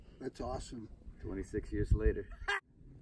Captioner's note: laughs